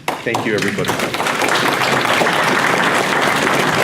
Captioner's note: audience applause